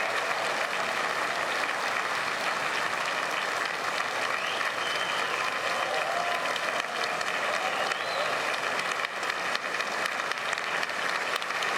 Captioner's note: applause